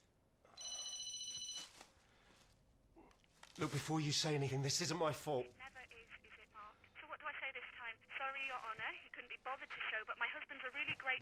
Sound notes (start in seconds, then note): 5.4 phone rings